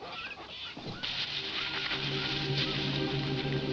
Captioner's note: leaves rustle; dramatic music